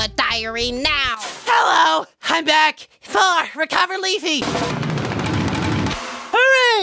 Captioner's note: recovering sounds